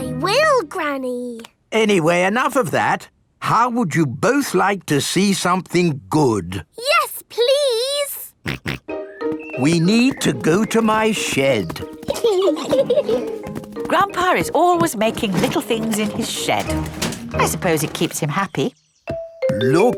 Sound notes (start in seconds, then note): 8.6 snorts; 12.0 giggling